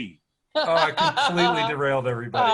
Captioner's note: laughs